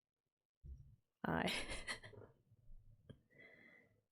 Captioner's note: laughs